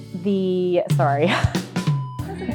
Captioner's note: laughs